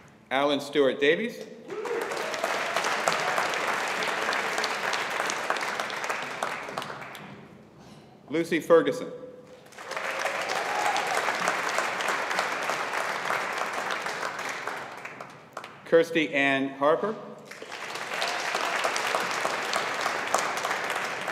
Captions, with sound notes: Alan Stewart Davies. (AUDIENCE APPLAUDING) Lucy Ferguson. (AUDIENCE APPLAUDING) Kirsty Ann Harper. (AUDIENCE APPLAUDING)